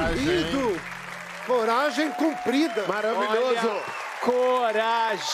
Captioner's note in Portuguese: aplausos